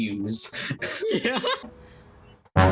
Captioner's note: chuckles; chuckling